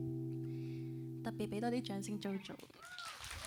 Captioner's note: island music stops; Cantonese; applauds and cheers